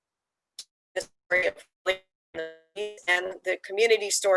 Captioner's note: audio interference